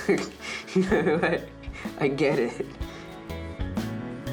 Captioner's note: laughs